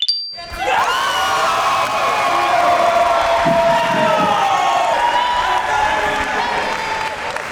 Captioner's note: crowd cheering